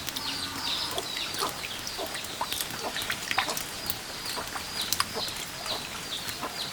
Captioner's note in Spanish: goteo ligero